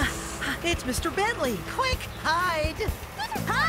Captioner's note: gasps